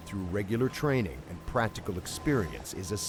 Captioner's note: voiceover